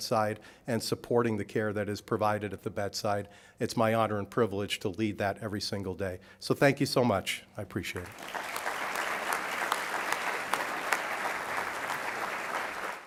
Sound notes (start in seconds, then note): 8.0 applause